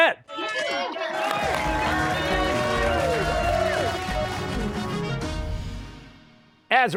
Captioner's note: cheers and applause